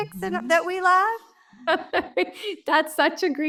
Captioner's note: laughter